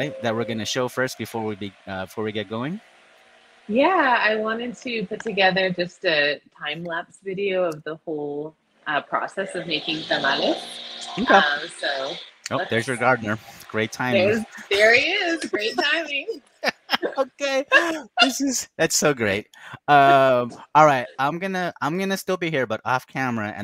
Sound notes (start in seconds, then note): 16.6 both laughing